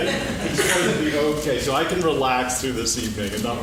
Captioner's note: laughing